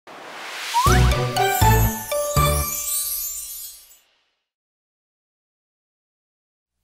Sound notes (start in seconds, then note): 0.7 cheerful jingle; 2.8 tinkling chimes